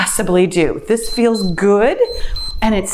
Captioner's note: timer beeps